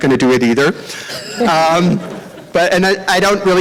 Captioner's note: laughter